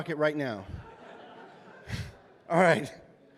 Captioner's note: laughter